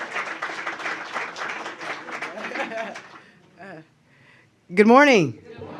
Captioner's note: applause